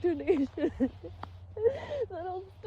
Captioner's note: sobs